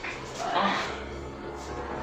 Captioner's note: grunts